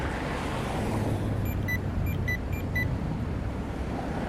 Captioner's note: walk signal chirps